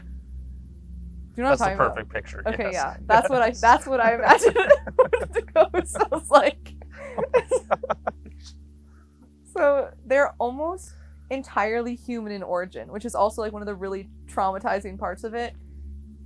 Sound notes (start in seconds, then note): 6.9 both laughing